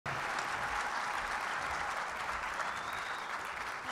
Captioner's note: audience clapping